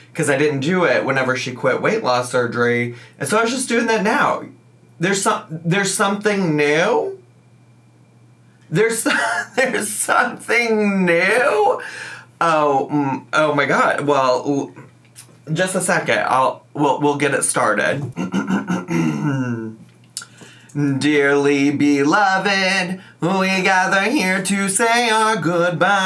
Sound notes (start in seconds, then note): 9.0 laughs; 17.9 clears throat